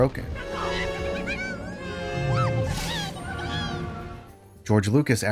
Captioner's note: Jawa screams cartoonishly